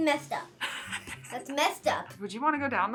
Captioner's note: React snickering